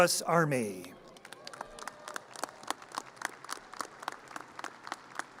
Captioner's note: audience cheers and applause